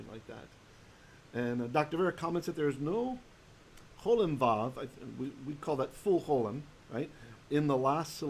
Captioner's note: Hebrew